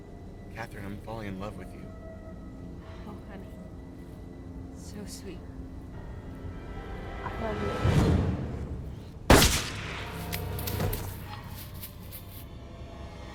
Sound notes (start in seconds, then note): 9.2 gunshot blasts; 10.4 tense music